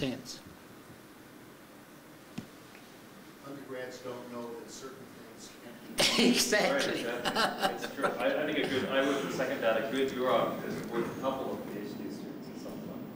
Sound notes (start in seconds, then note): 6.0 laughter